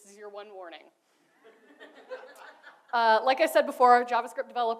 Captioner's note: audience laughs